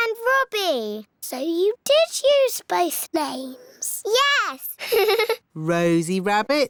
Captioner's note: laughs